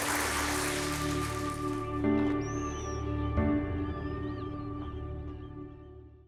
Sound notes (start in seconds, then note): 2.5 birds call